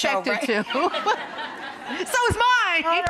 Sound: both laugh

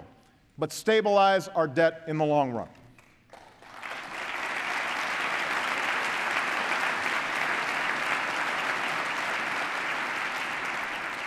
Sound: applause

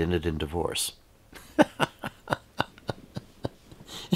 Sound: laughing

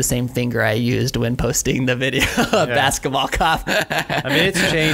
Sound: laughs

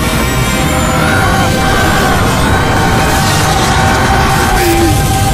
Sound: random scream

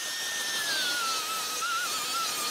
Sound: high whirring

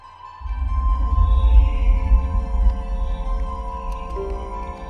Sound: humming computer interface; typing

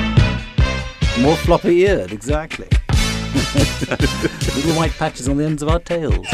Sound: laughs

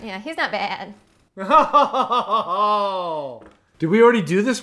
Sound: laughing

